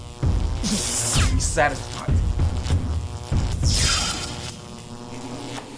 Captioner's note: electricity buzzes